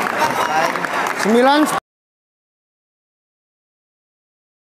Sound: applause

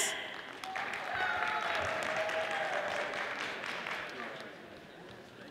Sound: audience applauding

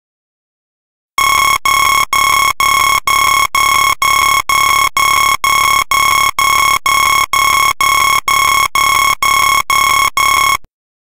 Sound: sound of alarm

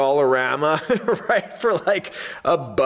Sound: instructor laughs

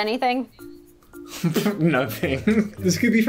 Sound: laughs

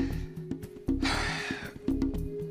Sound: sighs

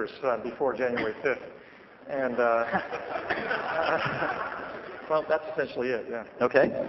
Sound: laughter

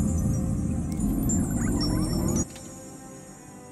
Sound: faint child's laughter

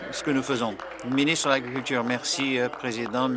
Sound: applause

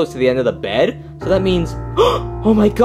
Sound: gasping

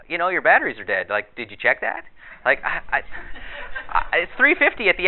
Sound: audience laughter

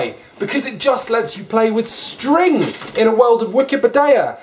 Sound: none

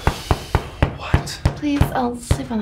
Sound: whispering

